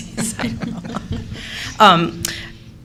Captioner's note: laughter